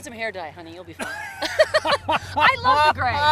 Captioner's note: Steve laughs uproariously